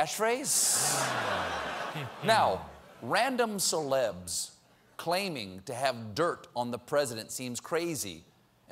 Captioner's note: laughter